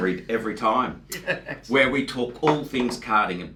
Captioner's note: laughs